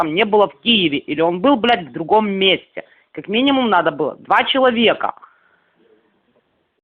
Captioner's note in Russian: говорят по-русски